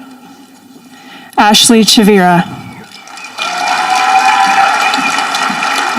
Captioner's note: audience applauding